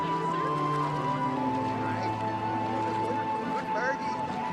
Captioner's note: chattering